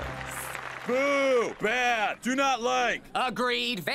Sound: applause

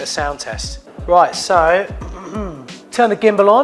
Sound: clears throat

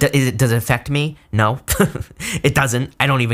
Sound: laughs

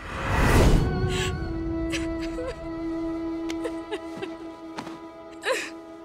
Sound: sobbing

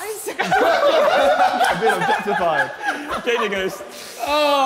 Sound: Sidemen laughing

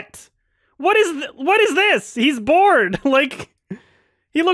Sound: lightly chuckles

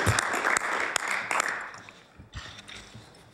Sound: applause

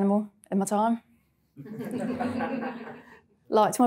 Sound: audience laughing

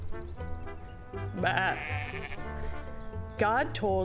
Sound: sheep bleating

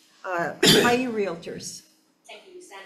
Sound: member coughs

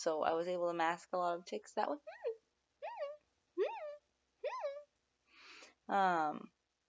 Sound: squeak

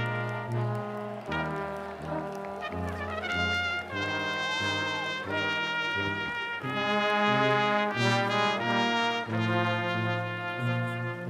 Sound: applause

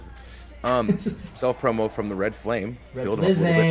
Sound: laugh

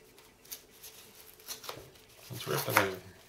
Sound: tearing sounds

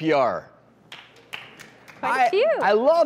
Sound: audience members clap

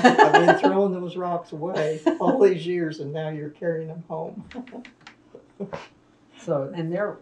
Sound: laughter; laughs

